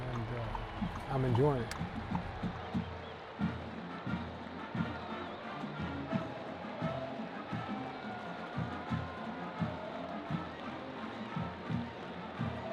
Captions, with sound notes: and I'm enjoying it. (crowd cheering) (bright music)